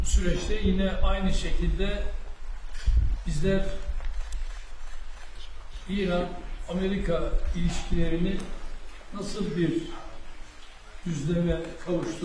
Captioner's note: speaking Turkish